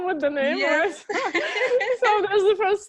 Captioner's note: laughing